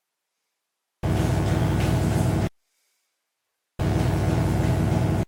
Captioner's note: bell dongs; electric buzzing